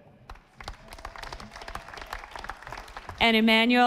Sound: audience applauding

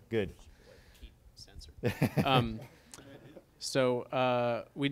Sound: chuckles

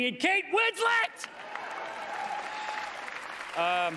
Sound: cheering

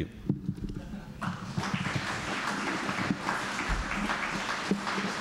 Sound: applause

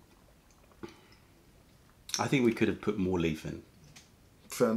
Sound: sips tea

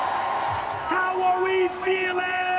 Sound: audience cheering

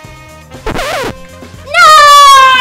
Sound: noise signal

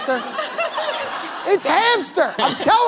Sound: laughter

